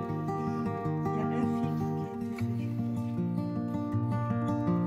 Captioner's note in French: haha